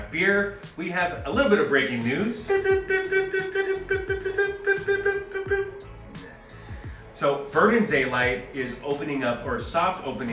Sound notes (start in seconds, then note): 2.3 bearded man chirping